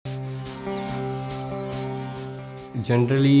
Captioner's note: city sounds